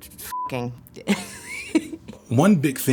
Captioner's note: laughs